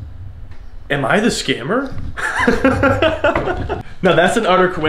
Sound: laughs

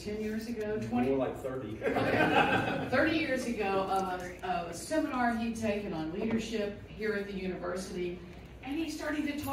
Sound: laughter

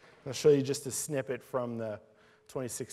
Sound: none

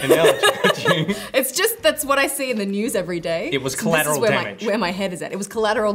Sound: laughs

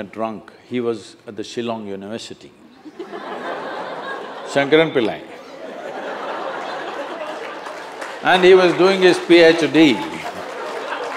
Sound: laughter

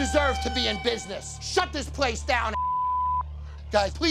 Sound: beep

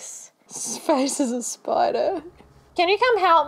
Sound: laughs

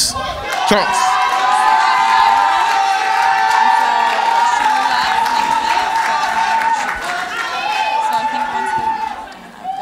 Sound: cheers and Applause

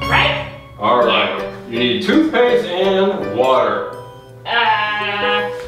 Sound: voiceover

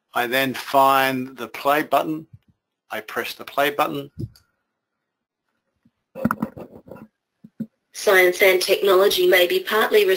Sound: computer speaking

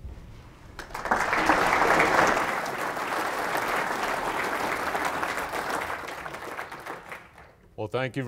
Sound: applause

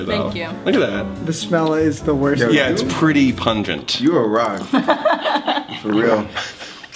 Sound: laughs

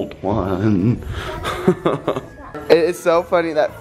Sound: laughing

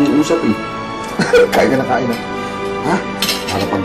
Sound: Dindo laughs

